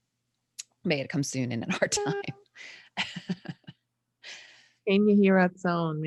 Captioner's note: laughs